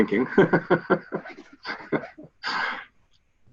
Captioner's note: laughs